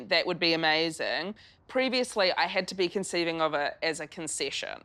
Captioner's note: none